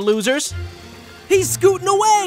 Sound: scooter engine roaring

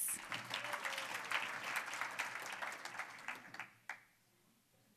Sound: applause

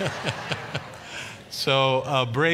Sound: congregation laughing

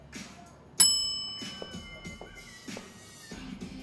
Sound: bell ringing

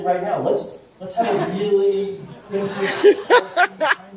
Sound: laughter

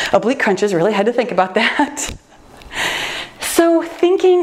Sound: laughs

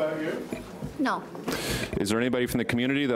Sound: woman's Voice

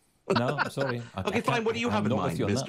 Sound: laughs

